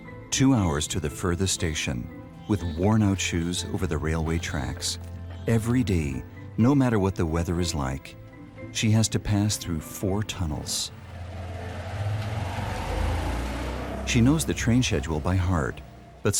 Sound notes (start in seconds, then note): 11.0 motorbike engine revving